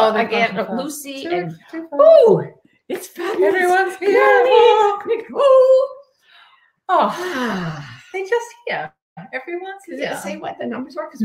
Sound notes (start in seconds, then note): 6.9 all sighing